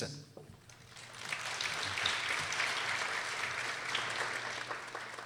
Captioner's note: people applauding